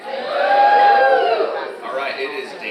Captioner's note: audience cheers